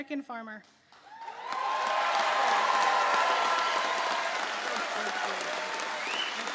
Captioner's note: applause